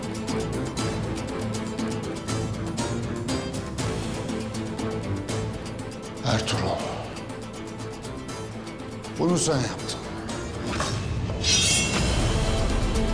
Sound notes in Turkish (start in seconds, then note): 11.4 Kılıç çekme sesi; 12.6 Müzik - Gerilim